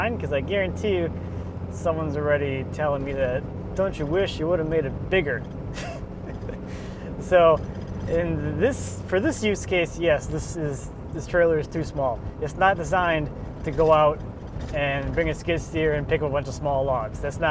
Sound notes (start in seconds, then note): 5.7 laughs